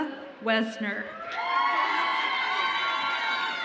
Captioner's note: audience applauds and cheers